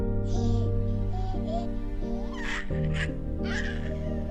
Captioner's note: baby gurgling